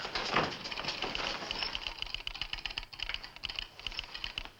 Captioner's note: telegraph clicking